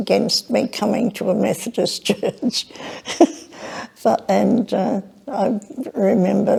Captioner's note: chuckling